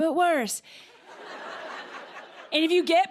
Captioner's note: laughter